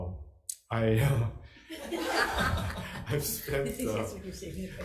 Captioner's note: audience laughing